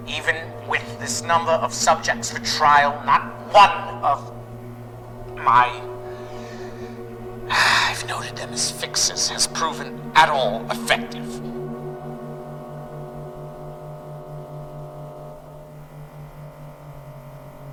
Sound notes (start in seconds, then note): 7.6 sighs